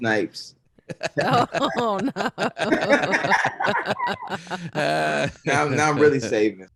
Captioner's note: all laughing